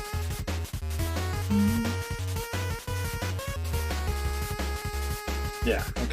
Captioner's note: hums along